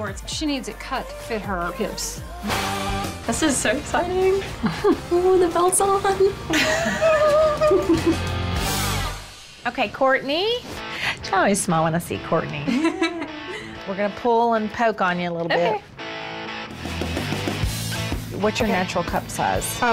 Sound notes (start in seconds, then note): 2.6 rock music; 6.4 laughs; 18.6 rock music